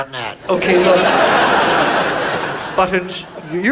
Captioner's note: audience laughs